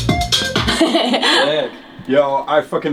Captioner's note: laughs